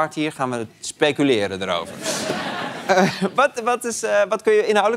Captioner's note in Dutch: gelach